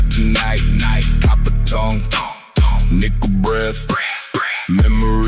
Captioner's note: breath